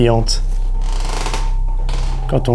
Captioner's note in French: Grincements de parquet